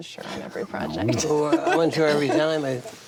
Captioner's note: laughs